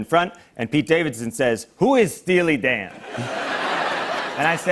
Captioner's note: laughter